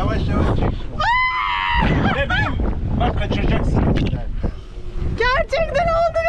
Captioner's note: scream